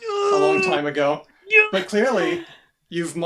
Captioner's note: frustrated noises